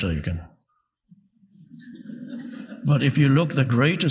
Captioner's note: audience laughing